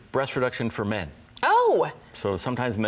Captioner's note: exclaims